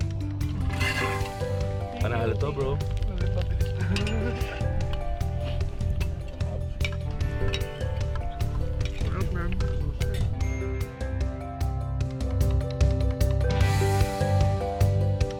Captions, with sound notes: This is awesome, bro! (Laughs) Delicious, man